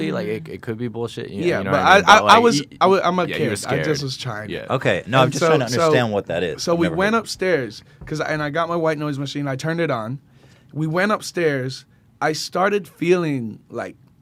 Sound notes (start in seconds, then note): none